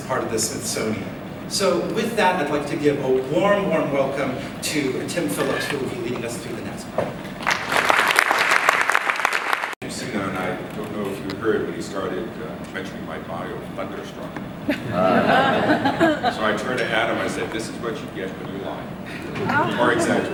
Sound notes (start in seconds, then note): 7.4 applause; 14.7 laughs